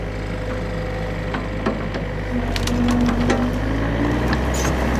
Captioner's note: machine sounds